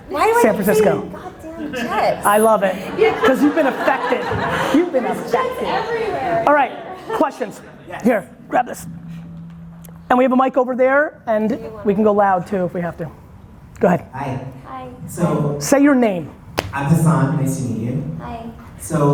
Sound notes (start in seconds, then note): 1.5 audience laughter